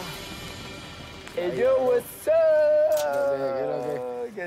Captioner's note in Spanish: gritan